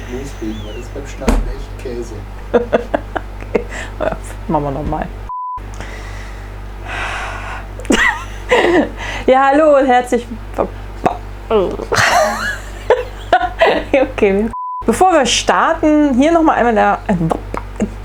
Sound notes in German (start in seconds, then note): 2.4 lacht; 6.0 Tiefer Seuftzer; 7.8 lachen; 11.9 lachen